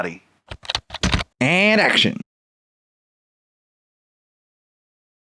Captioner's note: typing